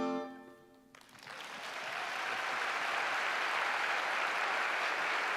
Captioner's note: applause